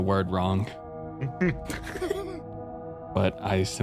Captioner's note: laughs